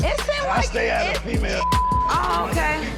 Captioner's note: beep